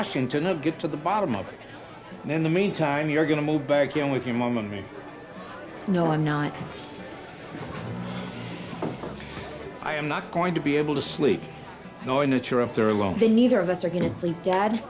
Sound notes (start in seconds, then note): 7.5 sighs